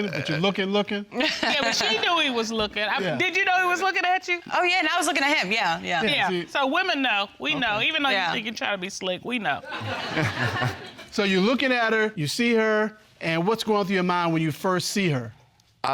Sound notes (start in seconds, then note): 1.1 laughing; 9.7 all laughing